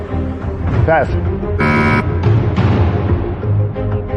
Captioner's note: buzzer sounds